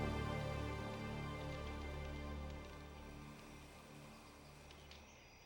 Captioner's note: fire crackling